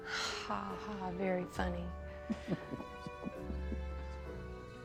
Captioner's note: chuckles